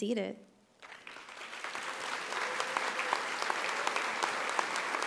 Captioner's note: audience applauding